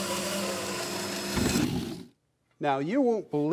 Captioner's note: wood sliding